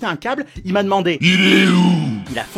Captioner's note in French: voix super grave